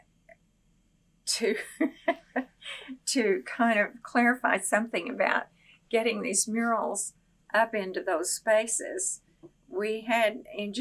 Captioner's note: laughs